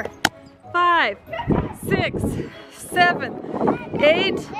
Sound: yelling

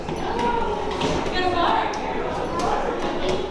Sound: people chatter

